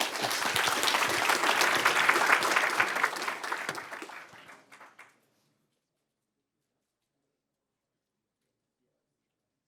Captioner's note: applause